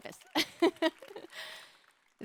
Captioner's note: applause